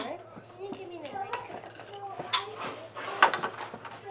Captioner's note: chatter